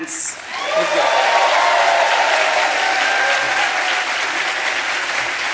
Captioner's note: applause